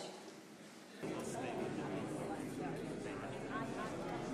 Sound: crowd murmuring

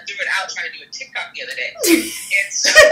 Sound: laughs

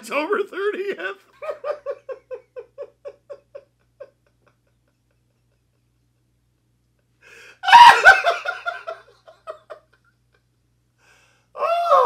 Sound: pure Maniacal Laughter That Goes On For Quite a While

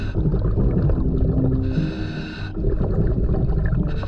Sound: tense pulsating music continues; continuous heavy breathing through mask; continuous water bubbling

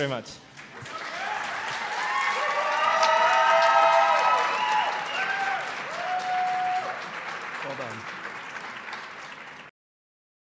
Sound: audience applauds and hoots

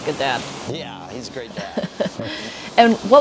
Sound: laughs

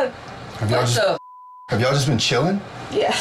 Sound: beep

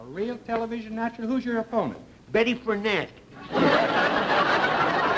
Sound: audience laughter

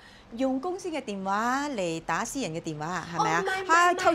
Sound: in Cantonese

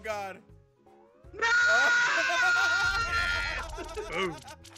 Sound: laugh

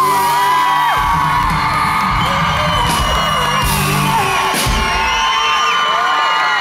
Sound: cheering

